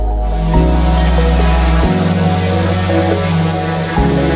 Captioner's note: machine revving